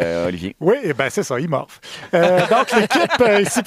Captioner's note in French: rires